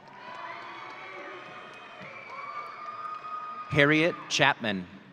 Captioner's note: audience cheering